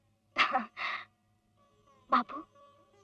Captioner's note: chuckles